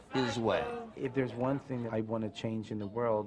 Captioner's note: voiceover